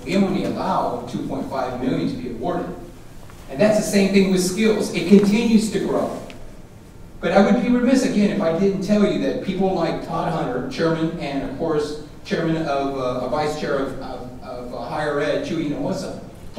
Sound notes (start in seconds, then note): none